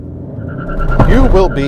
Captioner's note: tires screeching